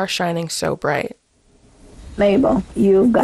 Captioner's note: soundbite of archived recording